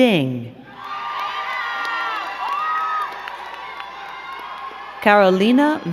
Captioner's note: crowd cheering and clapping